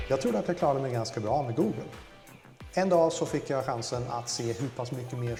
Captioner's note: speaking foreign language